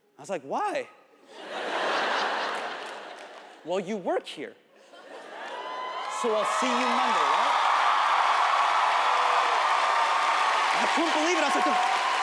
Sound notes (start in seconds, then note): 1.4 audience laughs; 7.7 audience cheers